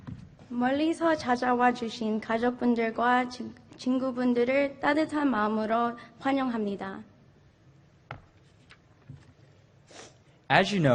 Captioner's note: speaking in Foreign Language